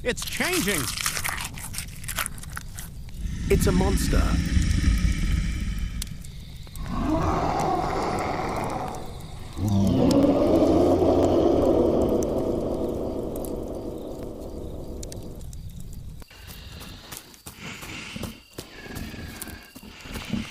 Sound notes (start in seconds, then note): 4.9 snarling; 12.7 growl Echos